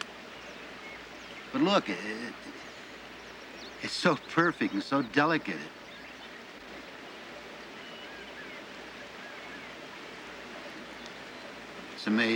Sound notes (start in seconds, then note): 1.6 laughter